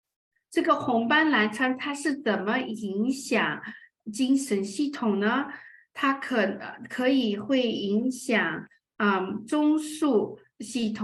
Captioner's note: speaking chinese